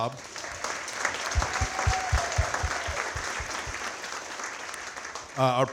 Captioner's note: audience cheering and clapping